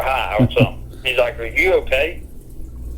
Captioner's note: chuckling